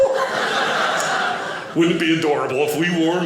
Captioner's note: audience laughing